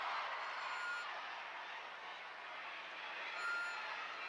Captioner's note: crowd cheers